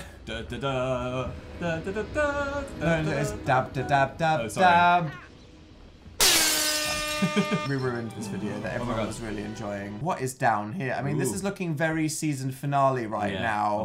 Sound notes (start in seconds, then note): 0.2 continues humming the mysterious tune; 6.2 airhorns